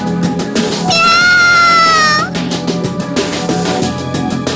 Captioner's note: roaring